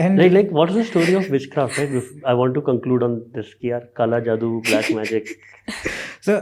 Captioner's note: speaks in Hindi